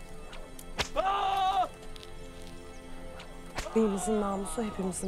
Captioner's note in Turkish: Kırbaç ve bağırma sesleri